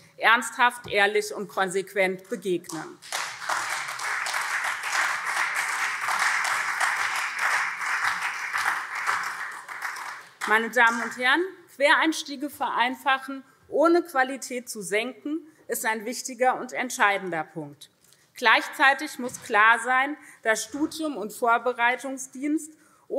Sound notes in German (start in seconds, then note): 2.9 Beifall SPD und CDU